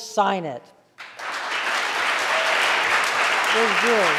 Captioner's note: audience applauding